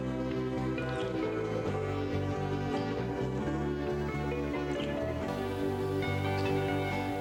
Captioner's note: upbeat music; lips smacking